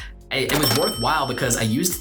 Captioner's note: cash register dings